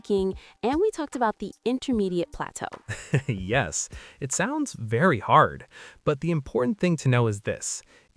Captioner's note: laughs